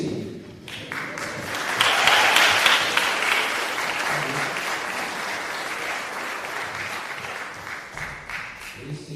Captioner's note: applause